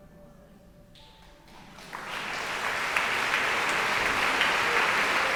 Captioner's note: audience applauding